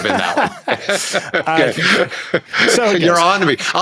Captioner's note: laughing